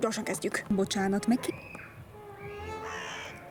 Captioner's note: screams